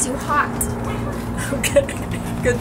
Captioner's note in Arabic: يضحك